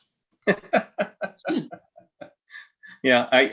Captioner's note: everyone laughs